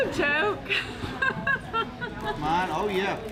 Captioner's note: laughter